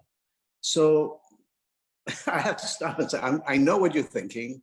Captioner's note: laughs